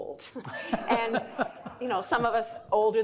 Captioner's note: laughing